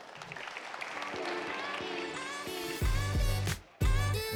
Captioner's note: audience clapping; upbeat music